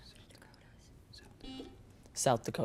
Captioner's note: buzzer beeps